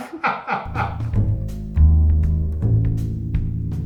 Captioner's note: laughs